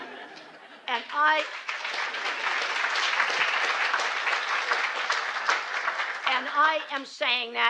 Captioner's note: applause